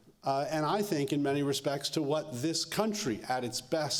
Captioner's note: none